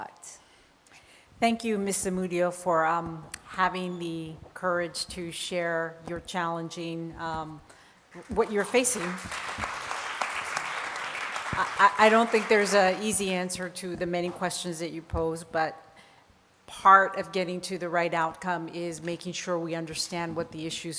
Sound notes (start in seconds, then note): 8.2 applause